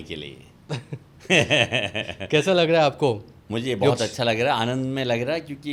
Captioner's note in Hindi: हंसी